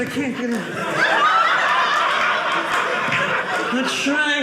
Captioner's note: audience laughing